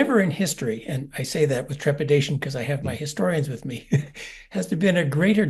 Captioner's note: laugh